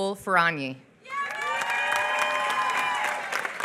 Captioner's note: applause